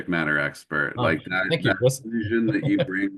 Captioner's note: chuckles